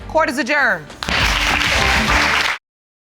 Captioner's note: audience clapping